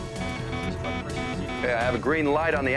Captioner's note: alarm beeps